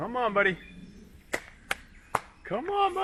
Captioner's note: hands clapping